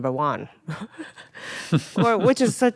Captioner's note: Atsuko and Joe laughing